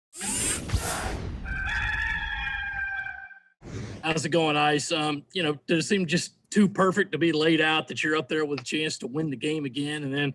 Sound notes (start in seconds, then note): 1.4 rooster crows